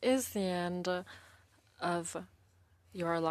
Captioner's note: speaking French